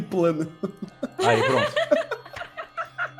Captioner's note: laughing